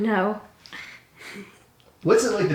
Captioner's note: giggles